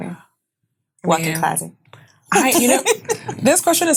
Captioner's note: laughing